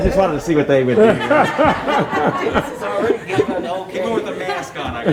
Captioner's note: audience laughs